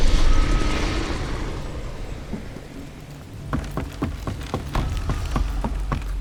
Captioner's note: footsteps